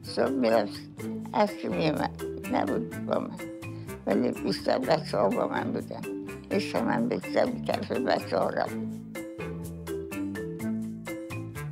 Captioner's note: speaking foreign language